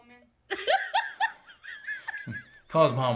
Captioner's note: mom laughs